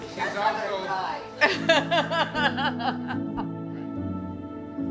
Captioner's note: laughing